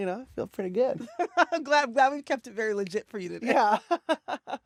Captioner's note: laughter